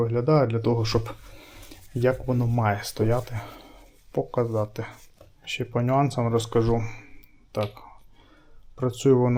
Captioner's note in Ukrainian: сопіння